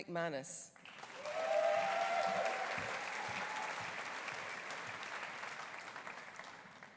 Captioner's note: audience applauding; audience cheering